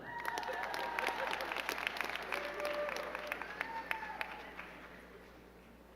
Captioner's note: crowd cheering and clapping